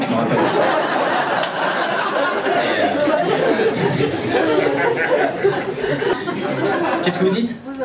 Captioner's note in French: rires public